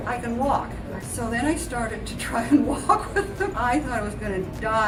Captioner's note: laughs